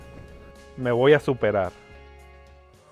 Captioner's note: spanish